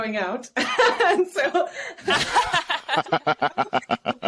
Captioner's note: group laughs